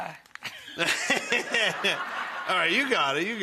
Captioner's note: Buddy laughing; audience laughing